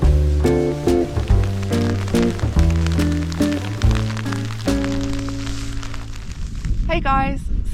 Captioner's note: rain